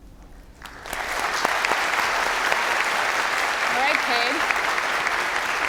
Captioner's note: applause